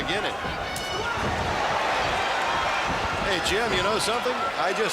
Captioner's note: crowd cheering